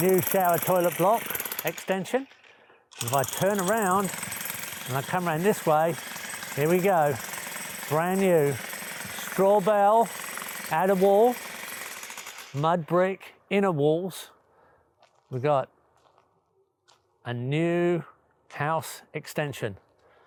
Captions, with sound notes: New shower, toilet block extension. If I turn around and I come around this way, here we go, (drill whirring) brand new straw-bale outer wall, mud brick inner walls. We got a new house extension.